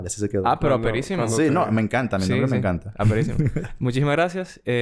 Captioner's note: laughs